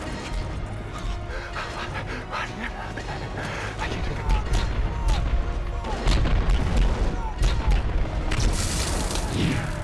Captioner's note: crashing sounds and gunfire